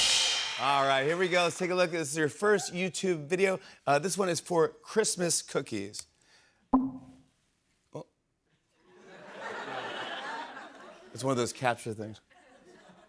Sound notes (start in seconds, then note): 8.8 laughter